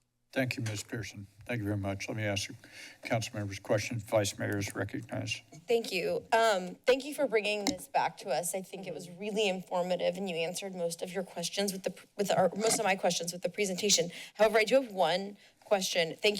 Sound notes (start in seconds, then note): none